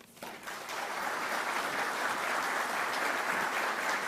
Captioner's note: audience clapping